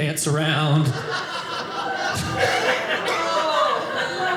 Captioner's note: audience laughing